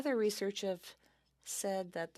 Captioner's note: speaking in French